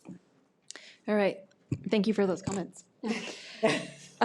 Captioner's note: chuckles